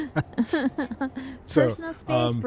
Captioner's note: laughter